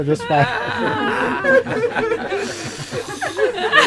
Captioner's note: laughter